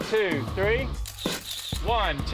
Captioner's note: camera clicking